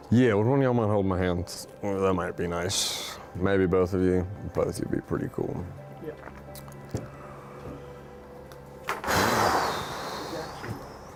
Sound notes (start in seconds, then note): 9.6 sighs